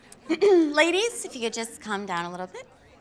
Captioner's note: clears throat